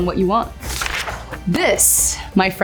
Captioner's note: paper crinkling